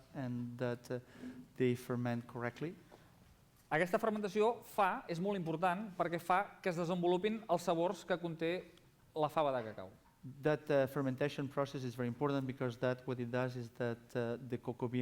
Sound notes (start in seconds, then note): 6.2 non-english speech